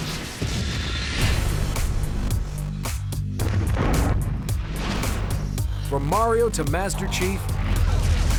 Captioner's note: ominous music plays; explosion